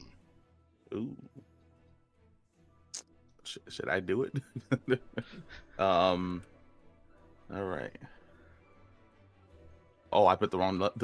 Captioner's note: sucks teeth